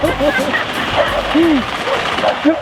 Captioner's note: laughter